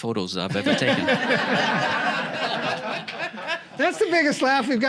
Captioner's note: laughter